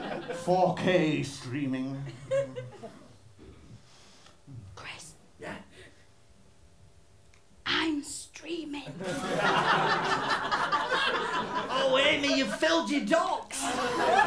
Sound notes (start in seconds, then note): 4.4 whispering; 9.0 laughter